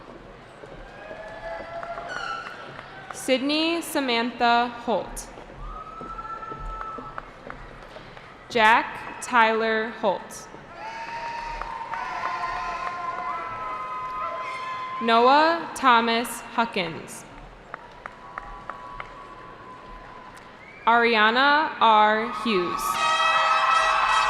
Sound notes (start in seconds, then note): 0.7 cheering; 5.6 cheering; 10.7 cheering; 17.7 cheering